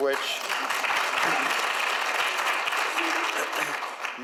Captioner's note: audience applauds